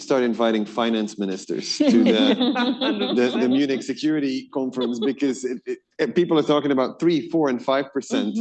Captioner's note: laughter